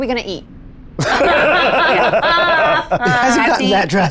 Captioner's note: players laughing